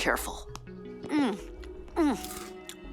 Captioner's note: Jessa munching